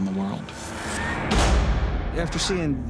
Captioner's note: door slams